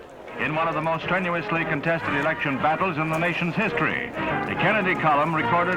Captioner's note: newscaster